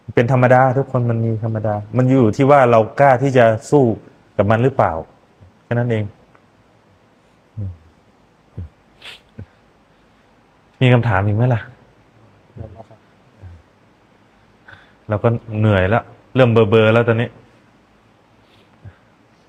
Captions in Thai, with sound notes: เป็นธรรมดาทุกคนมันมีธรรมดามันอยู่ที่ว่า เรากล้าที่จะสู้กับมันหรือเปล่าแค่นั้น เอง [เสียงสูดหายใจ] มีคำถามอีกมั้ยล่ะแล้วครับ เราก็เหนื่อยแล้วเริ่มเบลอแล้วตอน